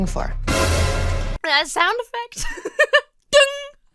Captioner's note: orchestra stings; laughs